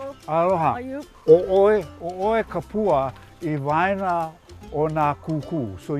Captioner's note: speaking Hawaiian